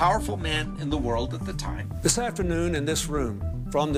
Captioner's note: soundbite of archived recording